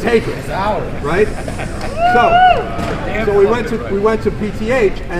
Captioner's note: cheers